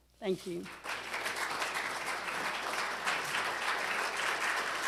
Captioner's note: applause